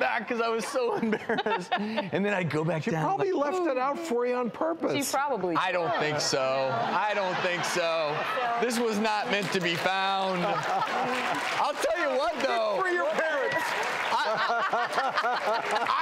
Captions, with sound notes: 'cause I was so embarrassed. And then I'd go back down like, She probably left it out for you on purpose. She probably did. I don't think so, I don't think so, this was not meant to be found. (audience laughs) I'll tell you what though, Good for your parents. (audience claps)